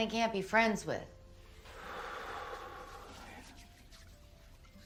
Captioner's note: exhales